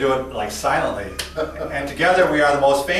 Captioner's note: chuckling